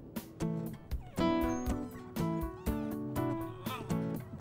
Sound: dog whimpers

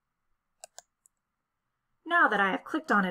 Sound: click

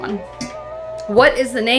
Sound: wolf howling

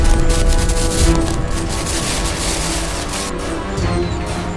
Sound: grass rustling

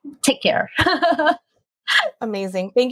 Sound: laughs

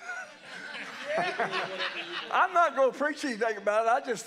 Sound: laughing

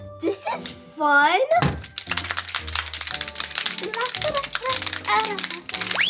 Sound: clackers clacking

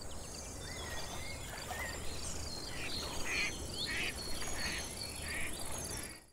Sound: sounds of nature, duck quack

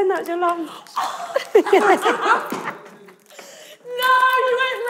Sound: laughing

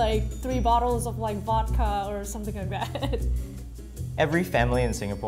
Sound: laughs

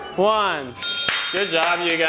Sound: bell dinging

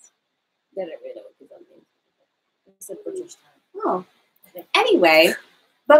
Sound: both speaking quietly

